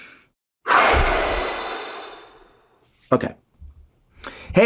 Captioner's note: exhales